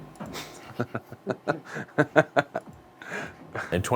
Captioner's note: laughter